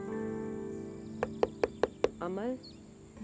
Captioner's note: Birds chirping; Knocking at the door